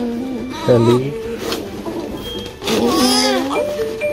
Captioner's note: choking up